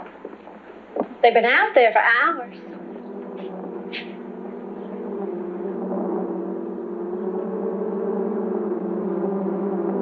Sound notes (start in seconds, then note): 4.8 bees buzzing